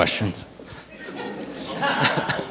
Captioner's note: audience chuckles